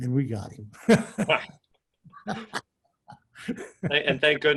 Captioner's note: laughs